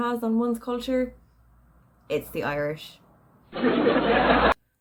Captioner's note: dry laughter